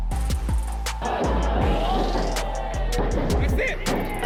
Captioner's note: thumping